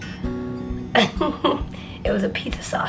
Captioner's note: giggling